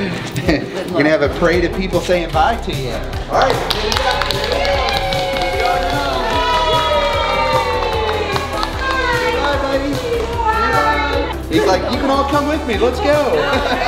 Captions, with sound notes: Gonna have a parade of people saying bye to ya. (people cheer and applaud) He's like, "You can all come with me. Let's go."